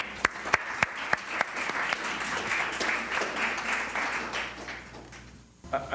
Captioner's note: applause